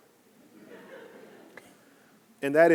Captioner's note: audience laughing